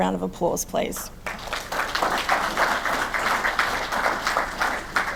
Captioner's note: audience clapping